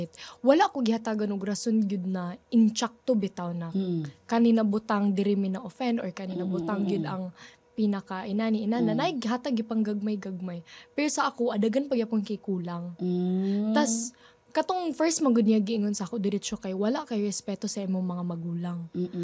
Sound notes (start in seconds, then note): none